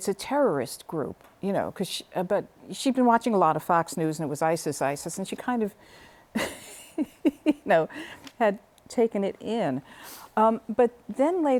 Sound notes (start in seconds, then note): 6.3 laughter